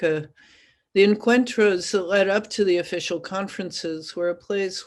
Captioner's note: spanish